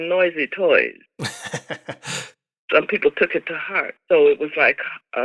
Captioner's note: laughter